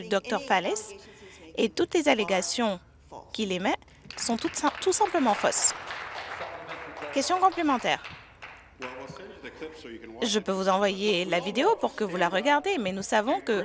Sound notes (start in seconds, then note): 7.1 applause